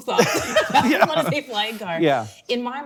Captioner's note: laughing